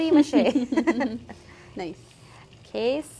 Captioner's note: both laughing